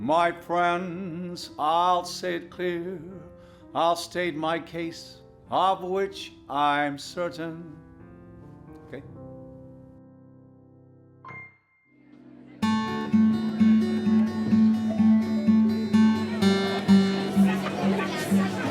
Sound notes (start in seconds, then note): 11.2 gentle music; 12.4 audience chattering